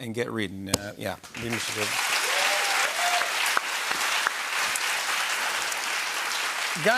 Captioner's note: cheering and applause